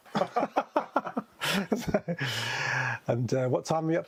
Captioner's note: both laughing